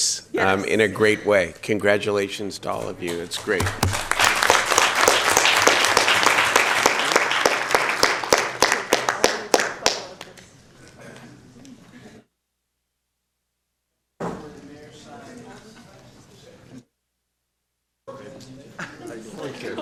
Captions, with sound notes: WILL COME BACK AND TALK TO THE JUNIORS AND SENIORS AND JUNIORS AND SENIORS AND SOPHOMORES ABOUT YOUR STORY AND SOPHOMORES ABOUT YOUR STORY AND TELL IT IN THE WEIGHT YOU JUST TELL IT IN THE WEIGHT YOU JUST HOLD IT. HOLD IT. IT IS PRETTY INFECTIOUS IN A IT IS PRETTY INFECTIOUS IN A GREAT WAY. GREAT WAY. CONGRATULATIONS TO ALL OF YOU. CONGRATULATIONS TO ALL OF YOU. >> [ APPLAUSE ]